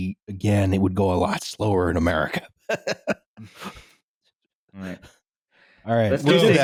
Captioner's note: laughs